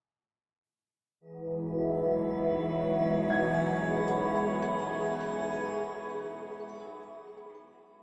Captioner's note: swelling tone, fades out